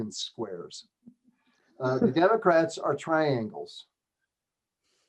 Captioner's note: laughter